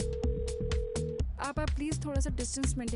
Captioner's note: phone ringing